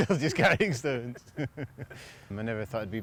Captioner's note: laughter